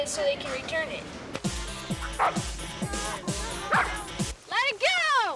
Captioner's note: dog barking